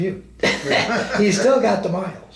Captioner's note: both men laugh